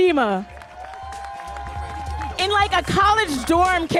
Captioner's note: audience cheering and applauding